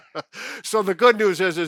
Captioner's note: laughing